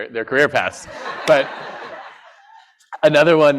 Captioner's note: laughter